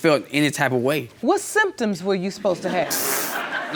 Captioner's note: crowd laughing